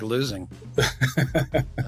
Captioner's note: laughs